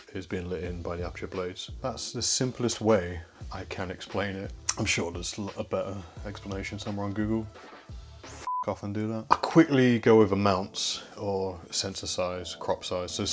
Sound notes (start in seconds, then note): 8.4 beep